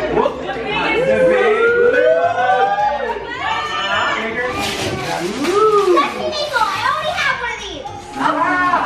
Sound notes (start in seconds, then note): 1.5 group oohs